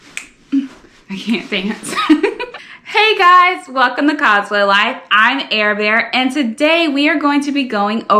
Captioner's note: laughs